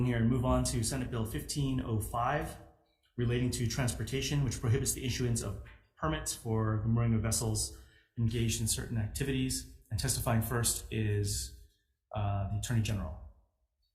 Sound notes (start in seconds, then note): none